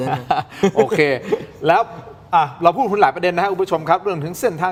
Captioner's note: laughs